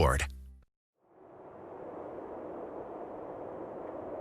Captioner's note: wind howling